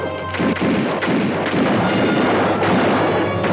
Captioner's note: guns fire